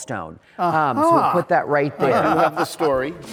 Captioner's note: laughs